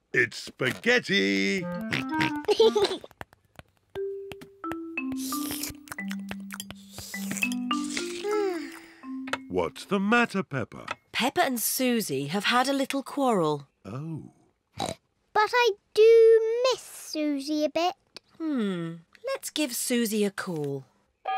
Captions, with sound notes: -It's spaghetti! -(GEORGE SNORTS AND LAUGHS) (SLURPING) -(SIGHS LOUDLY) -What's the matter, Peppa? -Peppa and Suzy have had a little quarrel. -Oh. (SNORTS) But I do miss Suzy a bit. Hmm, let's give Suzy a call.